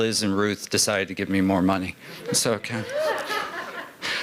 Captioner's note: laughter